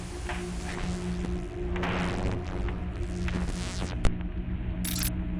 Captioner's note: sinister dramatic music; electricity buzzing; sinister music; transitions clicking